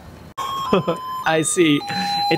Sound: chuckles

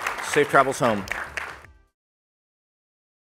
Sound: applause

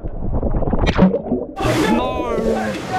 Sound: camera ploops

